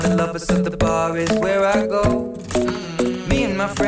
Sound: mmmm

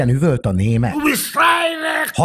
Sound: deutsch bier noises

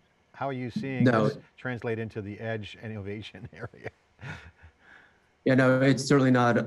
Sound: laughs

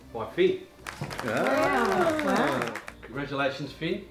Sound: all clapping

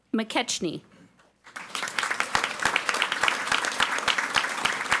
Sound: audience applauding

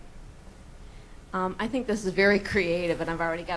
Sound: voiceover

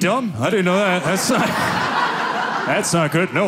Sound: audience laughing

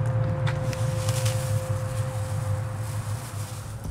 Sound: bag rustling

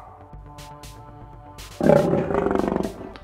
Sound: lion roar

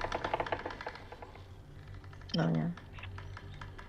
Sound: creaking

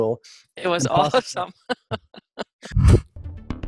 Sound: laughs

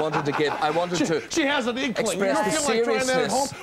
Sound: laughing

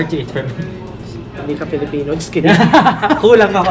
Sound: laughs

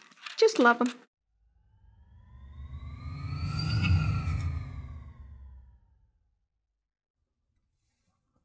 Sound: swoosh sound

